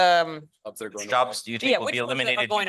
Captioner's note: multiple voices